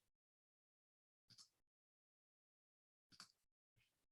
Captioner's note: clicking